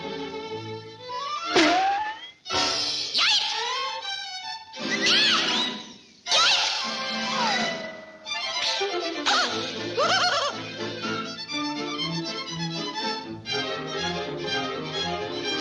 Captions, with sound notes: (nose pops) - Yipes! Ah! Yipes! (spider giggling) (upbeat dramatic music)